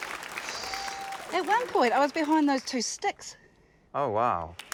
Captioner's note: huffs